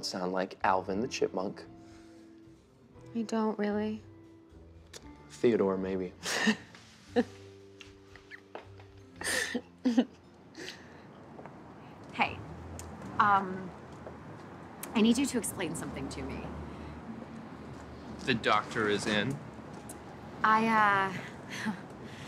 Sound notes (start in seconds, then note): 7.0 laughing